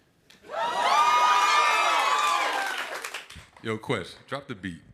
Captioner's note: cheers and applause